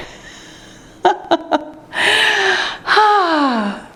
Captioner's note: laughter